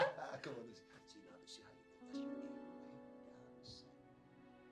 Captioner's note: softly chattering; laughs